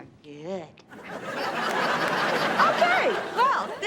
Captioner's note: audience laughs